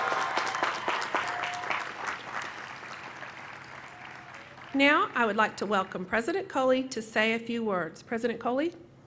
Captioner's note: applause